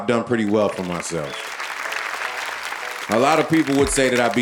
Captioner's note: audience applauding